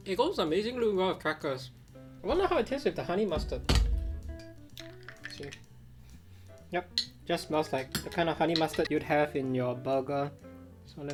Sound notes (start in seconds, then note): 3.4 lid clicking